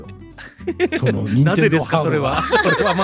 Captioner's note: imitating someone